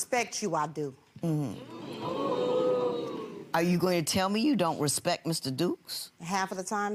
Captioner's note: audience oohing